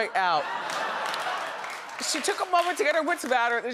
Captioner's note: audience laughing